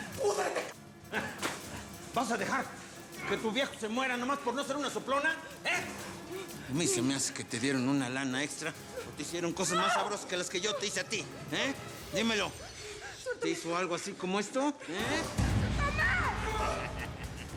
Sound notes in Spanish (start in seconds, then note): 1.1 ruido del escupitajo; 16.4 risas